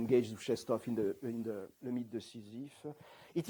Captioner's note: non-english